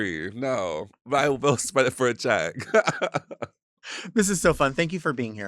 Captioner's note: laughs